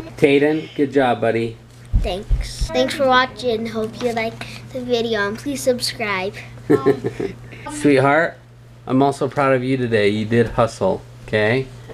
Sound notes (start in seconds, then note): 6.6 dad laughing